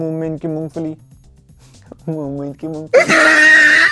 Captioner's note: laughing hysterically